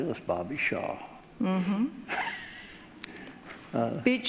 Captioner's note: laughing